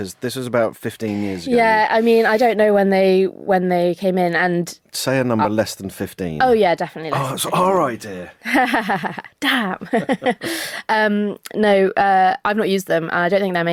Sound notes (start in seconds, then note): 8.4 laughs